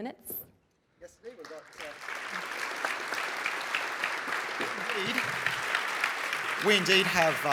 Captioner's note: applause